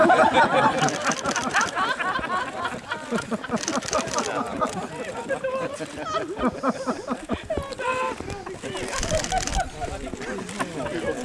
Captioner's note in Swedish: Skratt